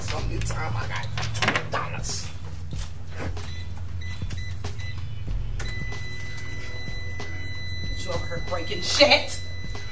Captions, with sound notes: SOME GOOD TIME, I GOT 2 DOLLARS. (KEYS REGISTER) (REGISTER RINGS IN ERROR) YOU OVER HERE BREAKIN SHIT!